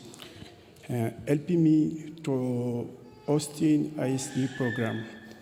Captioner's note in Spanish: continúa hablando en inglés